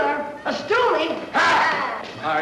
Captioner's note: bartender yells